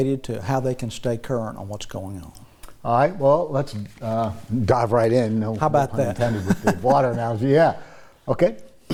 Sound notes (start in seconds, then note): 5.9 laughs